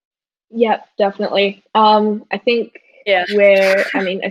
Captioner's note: giggles